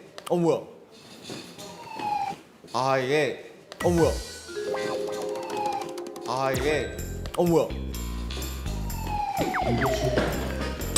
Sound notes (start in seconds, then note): 8.8 Siren tiba-tiba berbunyi